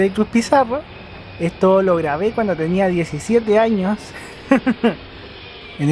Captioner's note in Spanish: risas